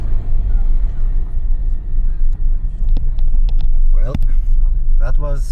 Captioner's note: wind blowing